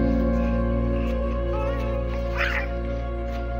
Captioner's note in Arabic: طفل دارج يضحك على الشاطئ